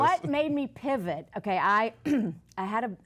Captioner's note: clears throat